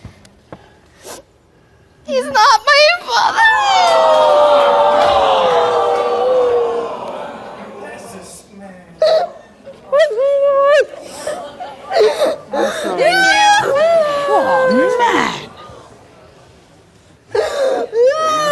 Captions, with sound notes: - He is not my father. (audience gasps) (cries and sobs) - Oh, man.